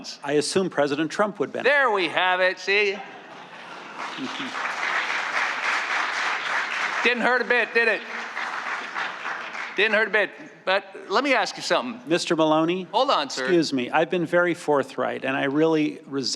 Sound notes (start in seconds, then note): 4.7 laughter; 5.7 cheering and applause